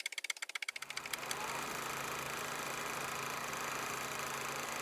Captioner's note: old movie reel clicking